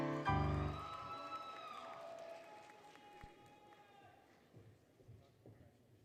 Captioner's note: applause, Cheering, Music; applause, Cheering